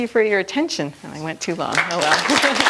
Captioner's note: applause; laughs